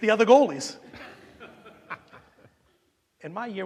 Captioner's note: audience laughing